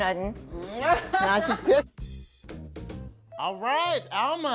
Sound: all laughing

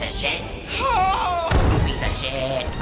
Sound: Adam yells

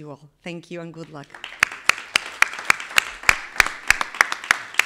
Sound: everybody clapping

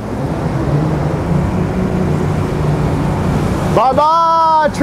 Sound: boat roars

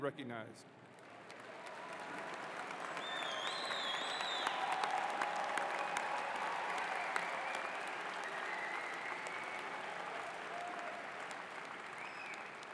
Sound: applause

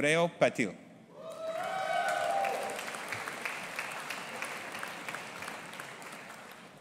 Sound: audience applauding and cheering

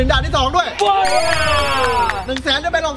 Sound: applauding

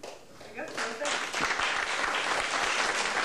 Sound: applause

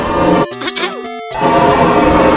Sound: clearing throat

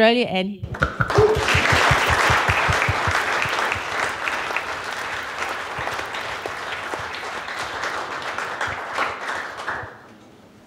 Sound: <i>applause</i>

